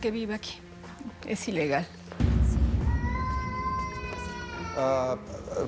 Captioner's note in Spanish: Lloriqueo del niño